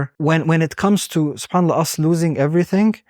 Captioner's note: speaking Arabic